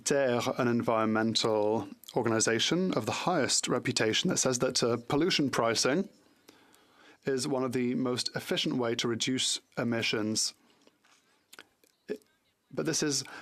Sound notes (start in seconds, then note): 4.9 speaking French